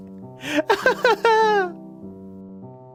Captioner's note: laughs